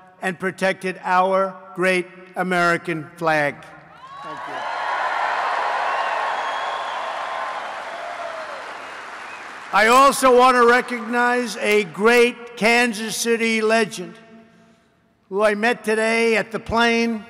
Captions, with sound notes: and protected our great American flag. Thank you. (Applause) I also want to recognize a great Kansas City legend, who I met today at the plane --